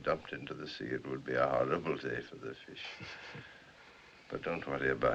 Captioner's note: chuckles